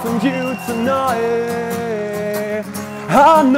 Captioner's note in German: Jubel, Applaus